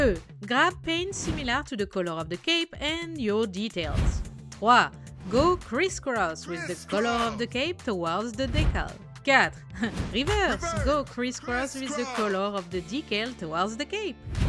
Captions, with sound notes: Grab paint similar to the color of the cape and your details Go crisscross with the color of the cape towards the decal. *laugh* Reverse! Go crisscross with the color of the decal towards the cape.